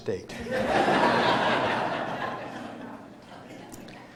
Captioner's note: loud laughter